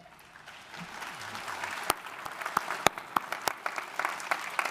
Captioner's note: audience applauding